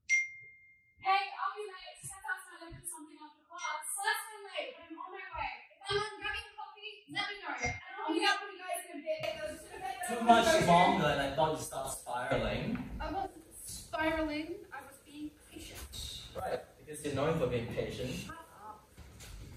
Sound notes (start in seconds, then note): 0.1 text tone